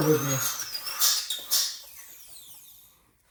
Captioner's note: drilling noise